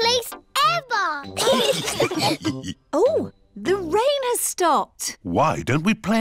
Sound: laughter

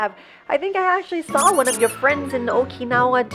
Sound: squeaks

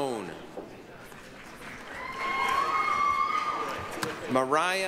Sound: applause, cheering

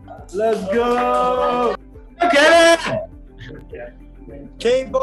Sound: cheering

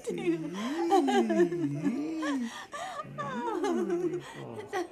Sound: laughing

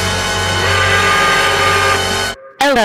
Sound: dramatic music sting; angry work whistle

